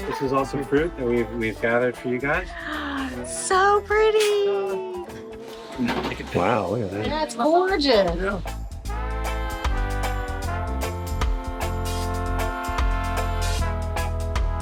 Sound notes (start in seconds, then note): 2.4 gasps; 10.4 chill reggae music continues